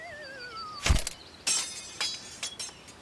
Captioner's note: descending whistle; thud; clattering